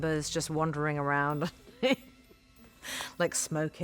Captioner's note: chuckles